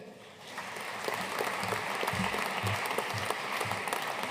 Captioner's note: audience applauding